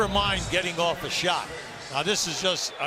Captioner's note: audience "boo"